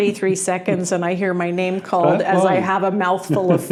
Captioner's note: laughing